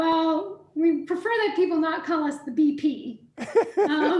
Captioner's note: laughing